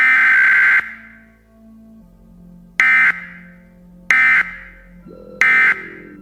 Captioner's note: alarm beeping